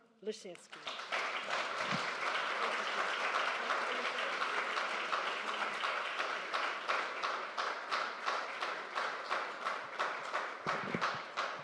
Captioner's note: applause